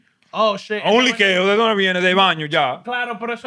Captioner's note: speaking Spanish